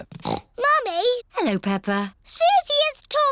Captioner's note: snorts